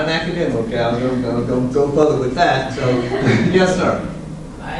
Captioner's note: laughs